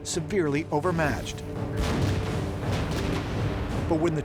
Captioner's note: cannon fire